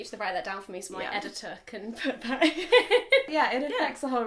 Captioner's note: laughs